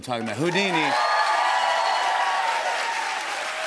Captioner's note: cheers and applause